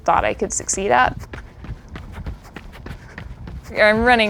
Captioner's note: foot steps